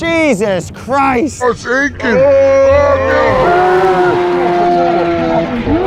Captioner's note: slow motion yelling